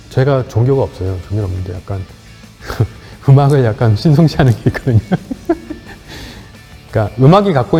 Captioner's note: laughs